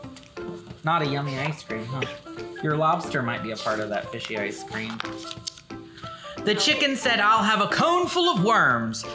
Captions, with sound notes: Not a yummy ice cream, huh? (coughs) Your lobster might be a part of that fishy ice cream. "The chicken said, 'I'll have a cone full of worms.